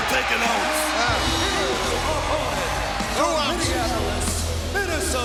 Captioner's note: announcer speaking faintly off mic